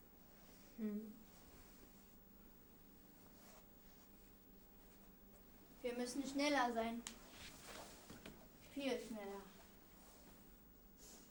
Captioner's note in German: traurig und begreifend